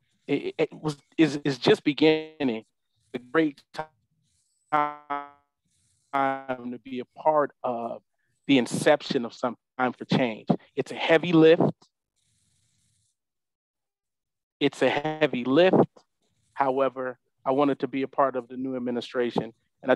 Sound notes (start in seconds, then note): 6.1 audio cuts out